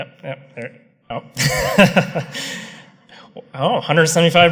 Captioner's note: laughter